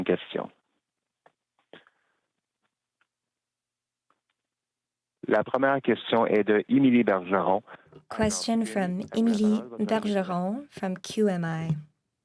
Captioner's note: speaking french